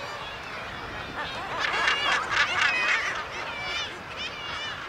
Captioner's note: birds squawking